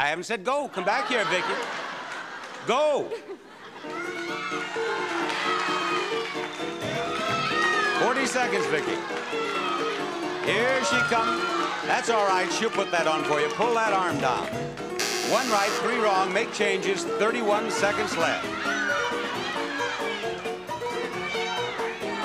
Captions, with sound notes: I haven't said go! Come back here, Vicky! Go! (audience cheers) 40 seconds, Vicky. Here she comes. That's all right. She'll put that on for you. Pull that arm down. (buzzer) One right, Three wrong. Make changes. 31 seconds left. (audience cheers)